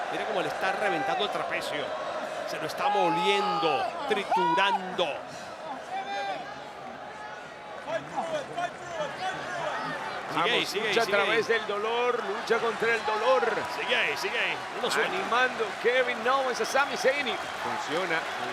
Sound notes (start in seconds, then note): 6.9 applause